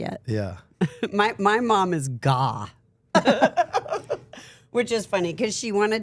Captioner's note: laughs